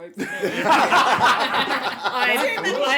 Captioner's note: laughter; laughs into chair abyss